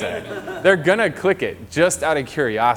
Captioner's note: audience laughter